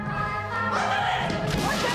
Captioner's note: whooping